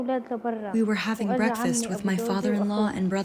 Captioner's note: through translator